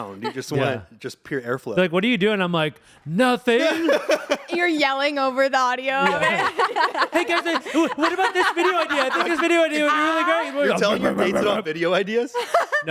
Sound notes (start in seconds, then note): 6.1 everyone laughs